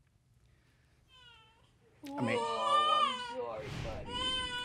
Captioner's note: baby crying